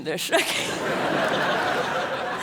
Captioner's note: laughs